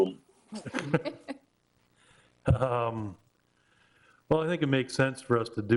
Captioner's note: all chuckling